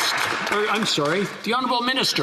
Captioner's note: applause